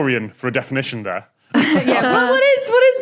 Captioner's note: group chuckles